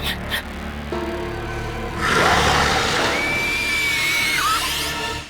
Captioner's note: growling; shrieking scream